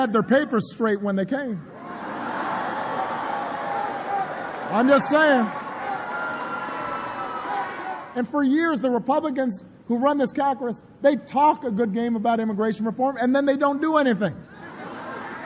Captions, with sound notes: their papers straight when they came. I’m just saying. (APPLAUSE) For years the Republicans who run this Congress, they talk a good game about immigration reform and then they don’t do anything.